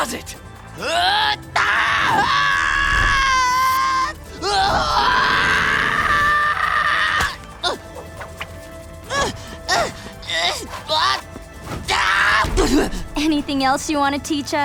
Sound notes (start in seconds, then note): 0.8 screaming; 7.3 grunting